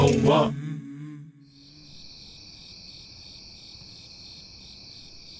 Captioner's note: men singing in foreign language; crickets chirping